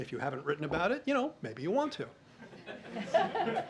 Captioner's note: laughter